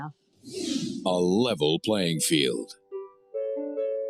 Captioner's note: swoosh